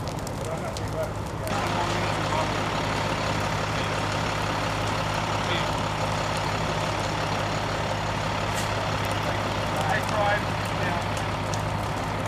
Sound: truck engine rumbling and indistinct chatter

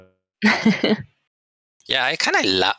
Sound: laughter

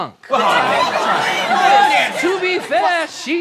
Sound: townspeople all exclaiming

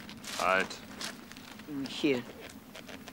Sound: speaks in foreign language

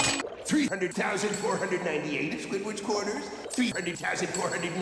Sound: echo-y

